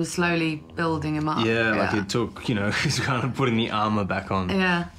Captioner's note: chuckles